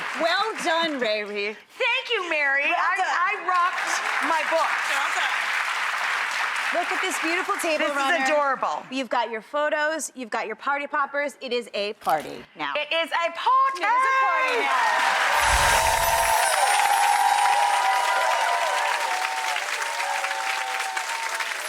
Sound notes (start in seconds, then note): 14.8 audience applauding; 15.3 gentle chiming bells; 18.2 audience applauding